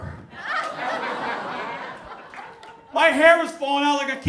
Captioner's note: audience laughs